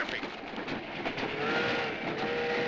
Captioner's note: train whistle blowing